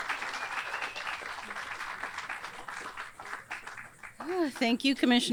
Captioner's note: audience cheers and applauds